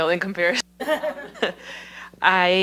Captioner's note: laughter